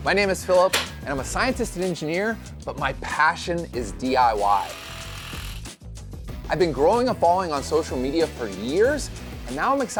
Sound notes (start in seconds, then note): 4.6 drill whirring